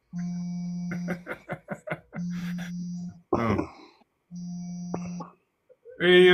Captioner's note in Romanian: Râsete